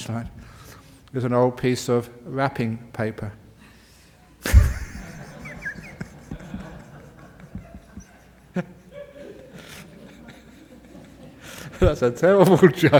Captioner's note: laughter